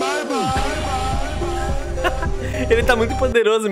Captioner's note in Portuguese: Risos